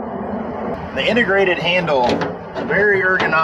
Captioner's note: box lid thuds